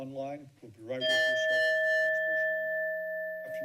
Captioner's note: bell rings